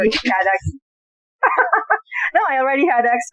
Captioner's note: laughing